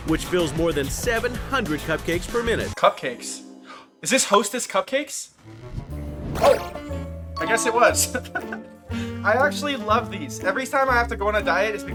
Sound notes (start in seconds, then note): 6.3 upbeat music; 8.1 host laughs